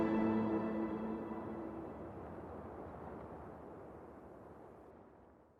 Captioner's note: gentle wind